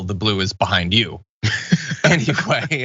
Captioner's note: laugh